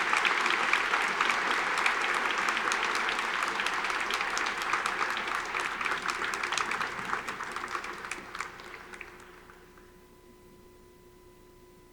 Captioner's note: audience applauding